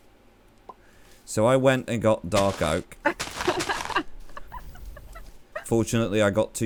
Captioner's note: laughs